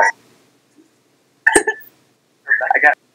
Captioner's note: A single laugh